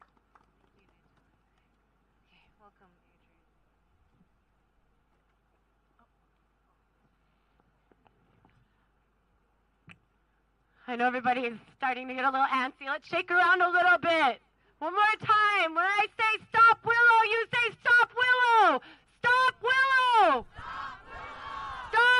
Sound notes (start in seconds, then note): 2.1 applause